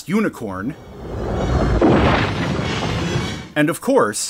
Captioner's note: fire and crashing sounds